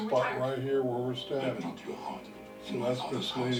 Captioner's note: background advertisement playing